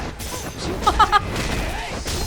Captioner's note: chuckles